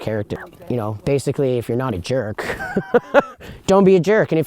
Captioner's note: laughs